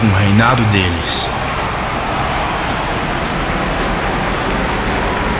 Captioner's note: cheers of support from the crowd